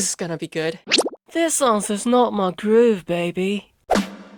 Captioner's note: British accent